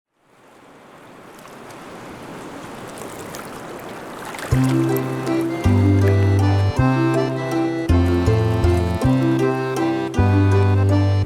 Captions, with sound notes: [SEASIDE WAVES] with Fiona Fish Finger and friends [HARMONICA MUSIC] CRAB PUPPETS with Fiona Fish Finger and friends